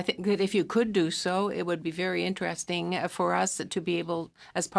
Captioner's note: speaking French